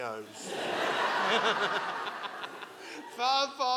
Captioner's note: audience laughing